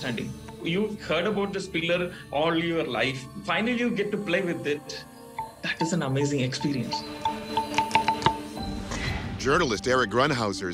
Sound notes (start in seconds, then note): 5.3 pillar ringing